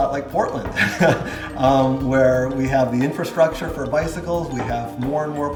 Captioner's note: chuckles